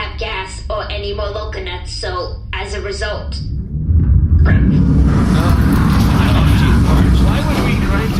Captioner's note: Bargie rumbles to a stop